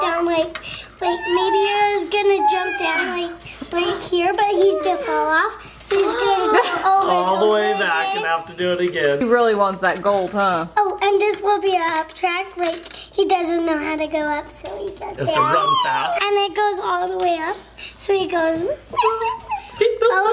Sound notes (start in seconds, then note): 18.3 booping